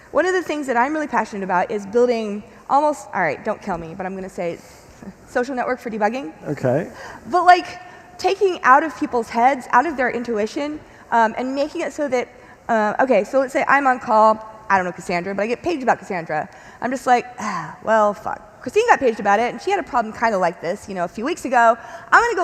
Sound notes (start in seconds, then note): 17.4 sighing